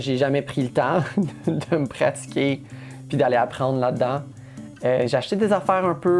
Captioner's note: laughs